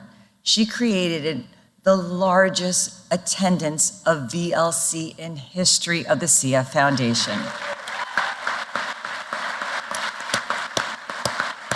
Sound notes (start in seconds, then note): 7.2 applause